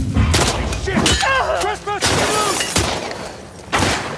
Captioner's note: soldiers shouting; weapons firing